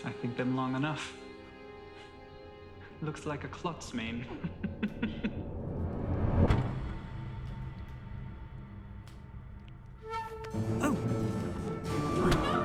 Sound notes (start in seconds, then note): 4.2 laughs